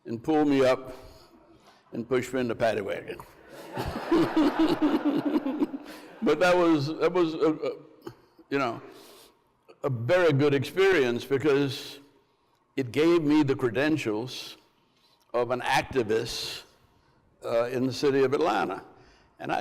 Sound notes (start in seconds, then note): 3.4 Andrew and crowd laughs